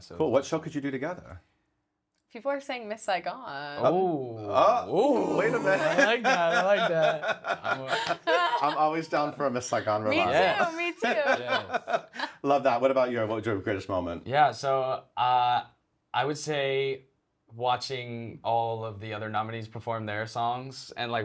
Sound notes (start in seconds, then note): 7.8 laughing